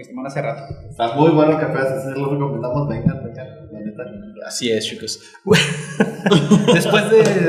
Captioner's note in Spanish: risas